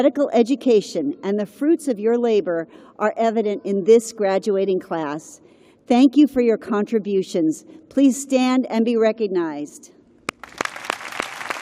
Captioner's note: applause